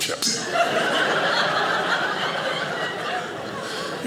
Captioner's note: audience laughing